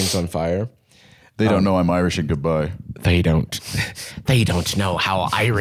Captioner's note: Irish accent